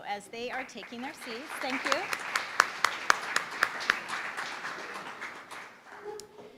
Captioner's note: applause